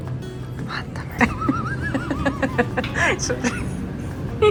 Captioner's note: dies of laugher